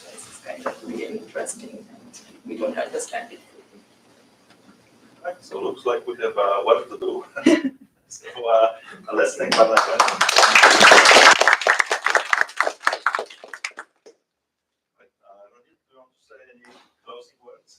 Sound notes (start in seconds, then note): 7.4 laughter; 9.5 applause